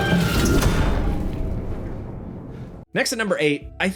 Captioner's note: door thudding